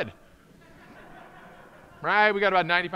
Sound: audience laughing

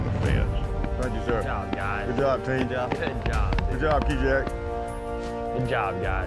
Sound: cowboys responding

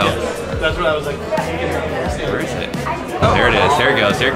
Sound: crowd chattering

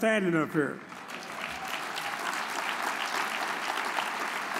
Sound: audience applauds

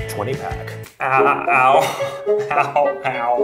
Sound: laughs

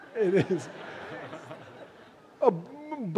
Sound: laughter

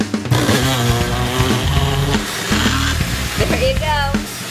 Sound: blender whirs

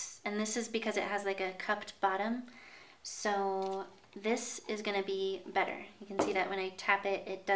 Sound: none

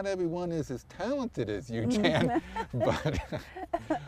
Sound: laughter

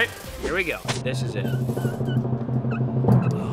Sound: rumble

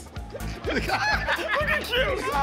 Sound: both laugh

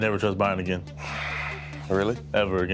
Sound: sigh

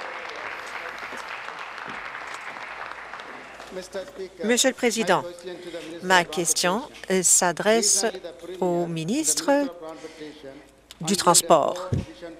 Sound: applause

